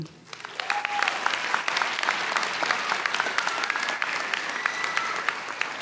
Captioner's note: audience cheers and applauds